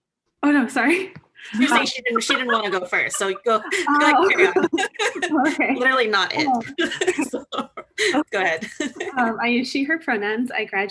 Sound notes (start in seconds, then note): 4.5 laughs